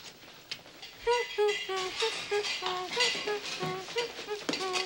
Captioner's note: Arlo humming